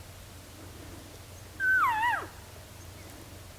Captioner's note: caller cow calling